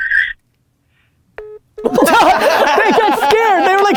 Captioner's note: phone beeps to end call; group laughter